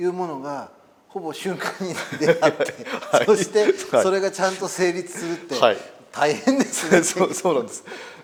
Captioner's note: laugh